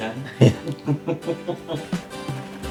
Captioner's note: laughter